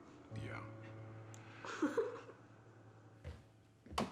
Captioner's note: giggles